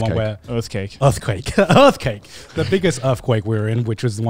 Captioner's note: laughs